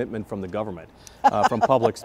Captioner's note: laughing